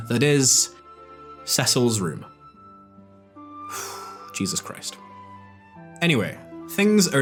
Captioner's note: sigh